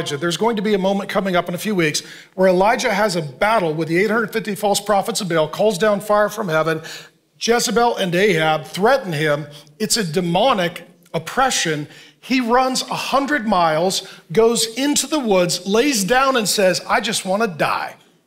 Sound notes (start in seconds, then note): none